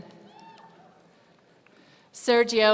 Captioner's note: audience cheering